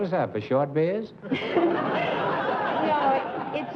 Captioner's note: laughs